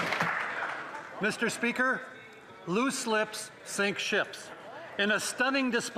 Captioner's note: applause